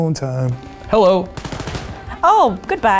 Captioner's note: gunshots